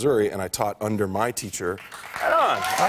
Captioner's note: applause